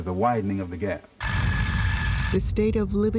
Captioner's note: reel whirring